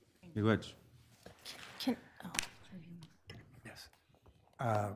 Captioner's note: speaks foreign language